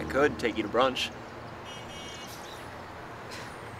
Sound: bus honk

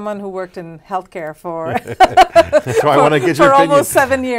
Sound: laughs

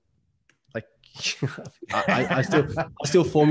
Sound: all laughing

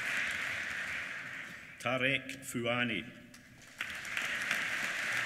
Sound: applause

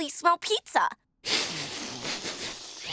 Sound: sniffing

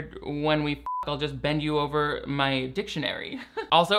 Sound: chuckling

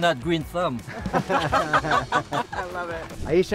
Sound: all laugh

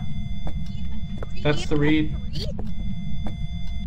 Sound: beeping continues

